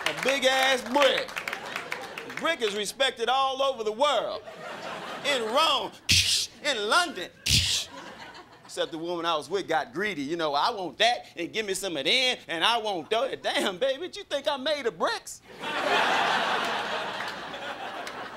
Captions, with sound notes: A big-ass brick! Brick is respected all over the world. In Rome-- [mouths glass breaking] in London! [mouths glass breaking] Except the woman I was with got greedy, you know, "I want that and give me some of them and I want those." Damn baby what you think I'm made of, bricks? [crowd laughing]